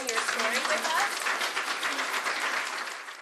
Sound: applause

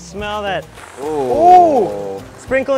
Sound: both exclaim

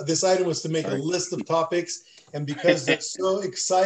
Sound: laughter

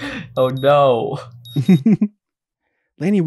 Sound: chuckles

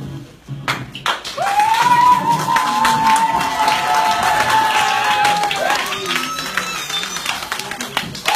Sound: applause

